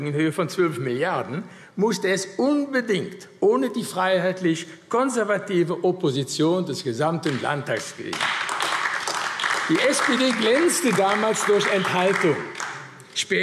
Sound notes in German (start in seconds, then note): 7.7 Beifall AfD